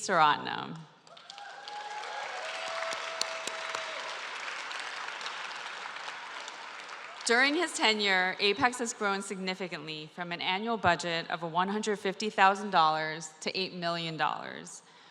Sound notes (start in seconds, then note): 1.0 applause